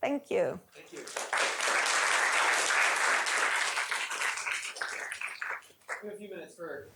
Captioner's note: applause